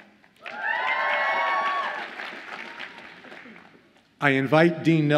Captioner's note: audience cheers and applauds